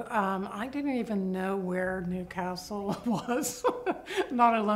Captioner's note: laughs